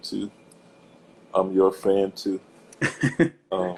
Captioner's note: laughs